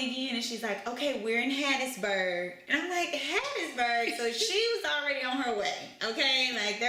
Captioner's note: laughter